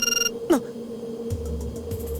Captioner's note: alert